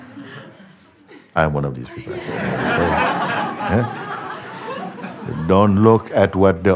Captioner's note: Lachen